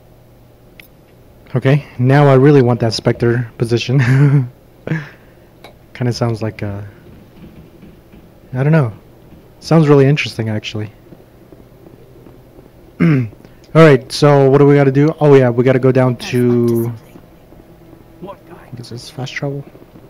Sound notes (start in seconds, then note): 4.0 giddy laugh; 13.0 clears throat